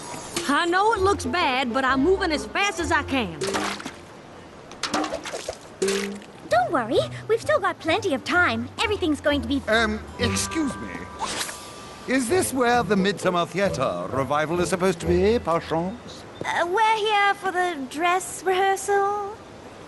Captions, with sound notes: I know it looks bad, but I'm movin' as fast as I can. [splat] [clanking] Don't worry, we've still got plenty of time. Everything's going to be— Ehm, excuse me? Is this where the Midsummer Theatre Revival is supposed to be, perchance? We're here for the dress rehearsal?